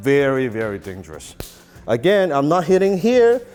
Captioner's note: smack